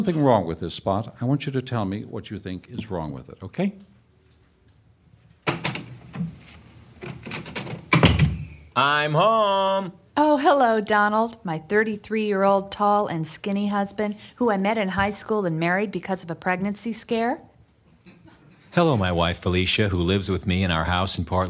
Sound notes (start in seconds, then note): 7.0 SFX: Door opens, closes